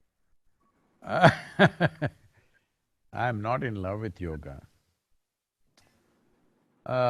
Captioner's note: laughs